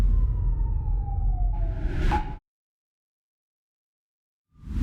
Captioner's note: siren wailing